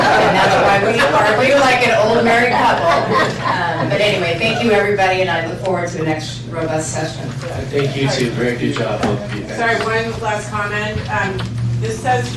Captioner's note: laughter